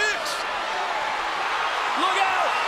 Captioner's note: crowd cheers